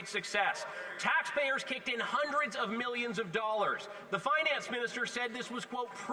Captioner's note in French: voix de l'interprète